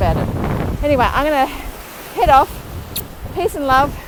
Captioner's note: lips smacking